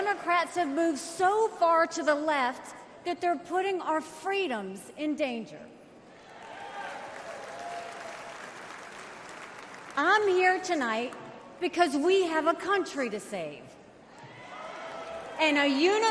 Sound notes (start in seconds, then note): 6.2 crowd cheers